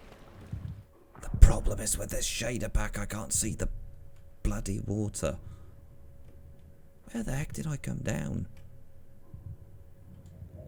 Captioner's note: whispering, for some reason